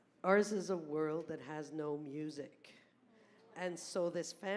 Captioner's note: voiceover